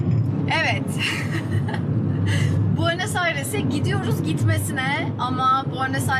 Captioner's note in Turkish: kahkaha